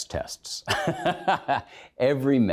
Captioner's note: laughs